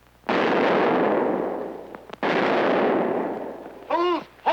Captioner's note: shotguns popping